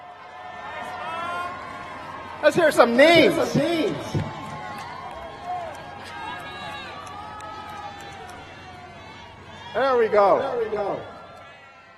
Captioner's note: shouting